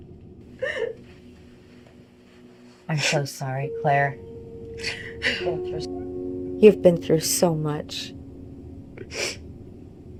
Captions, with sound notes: (Claire sobbing) - I'm so sorry, Claire, you've been through so much.